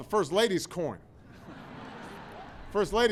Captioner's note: laughter